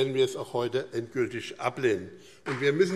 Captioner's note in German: Beifall BÜNDNIS 90/DIE GRÜNEN und CDU